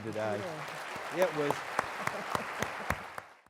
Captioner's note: loud applause